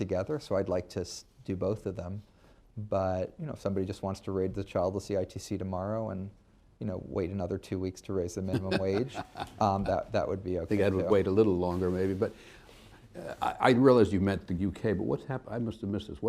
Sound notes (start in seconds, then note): 8.5 laughs